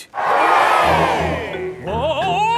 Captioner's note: crowd cheers